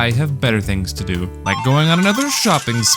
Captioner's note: slot machine jackpot sounds